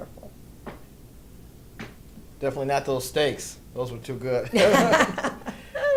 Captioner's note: laughs